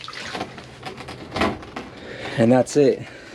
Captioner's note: water splashing